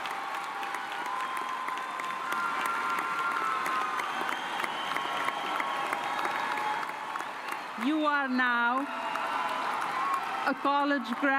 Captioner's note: cheers and applause